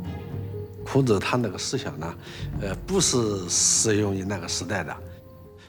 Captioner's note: hablan un idioma extranjero